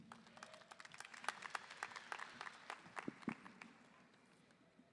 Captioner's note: audience applauding